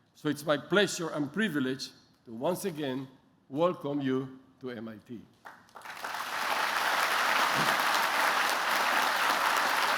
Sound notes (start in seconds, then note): 5.4 applause